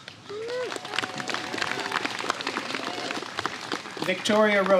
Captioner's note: applause